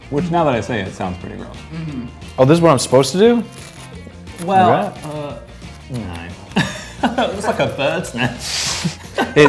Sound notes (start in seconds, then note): 6.5 laughs